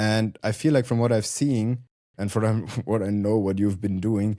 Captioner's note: chuckles